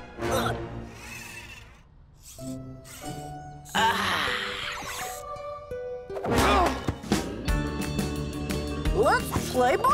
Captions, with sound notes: (gentle music) (Cozmo sighs) (fun music) - Let's play ball.